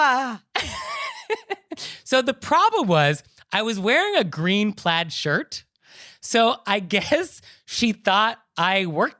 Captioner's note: giggling